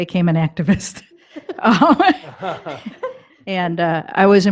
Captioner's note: chuckling